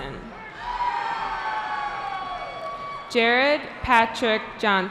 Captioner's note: cheering